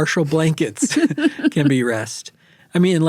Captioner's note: chuckling